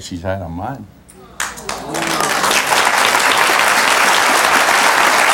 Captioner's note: audience ah's and applauds